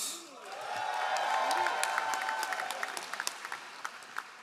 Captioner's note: all applauding